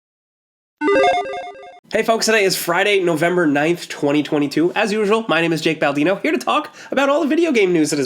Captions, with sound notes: (ringing game console sounds) - Hey folks, today is Friday, November 9th, 2022. As usual, my name is Jake Baldino, here to talk about all the video game news